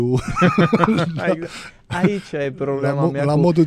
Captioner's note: laughter